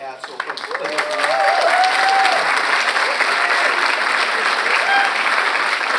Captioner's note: audience cheers and applauds